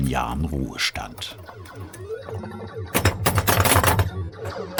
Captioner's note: electronic sounds, clattering